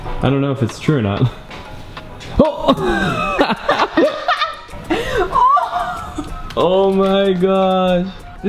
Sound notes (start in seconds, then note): 2.7 all laughing hysterically